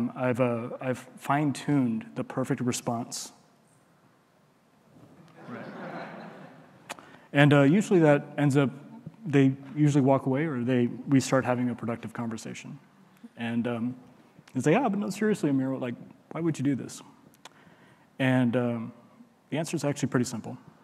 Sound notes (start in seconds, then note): 5.3 audience laughing